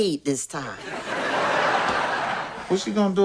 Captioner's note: audience laughs